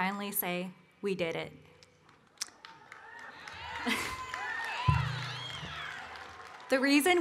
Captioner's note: cheering and Applause